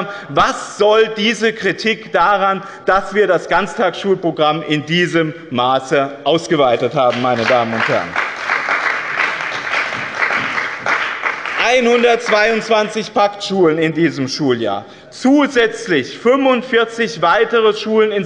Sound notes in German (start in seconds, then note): 6.8 Beifall bei dem BÜNDNIS 90/DIE GRÜNEN und der CDU